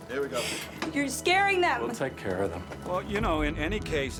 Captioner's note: sobs